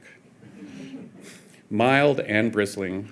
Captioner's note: audience chuckling